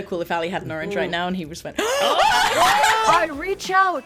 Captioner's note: gasps